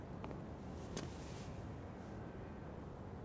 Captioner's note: none